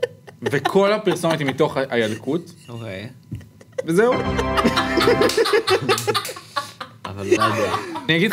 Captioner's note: laughs